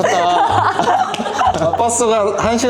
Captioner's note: ha ha ha ha ha